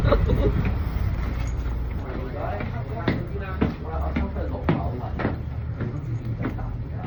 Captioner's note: Cantonese